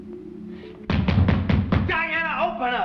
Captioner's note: banging